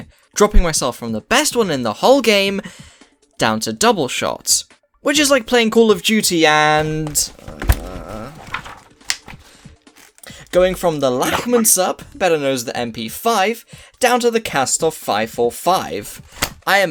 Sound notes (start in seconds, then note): 6.6 pages flipping